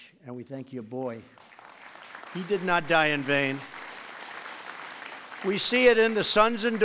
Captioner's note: applause